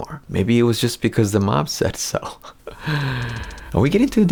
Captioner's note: chuckles